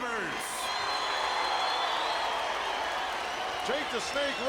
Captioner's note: audience cheering